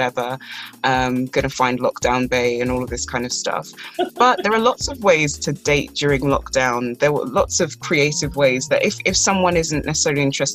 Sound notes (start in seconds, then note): 3.8 laughs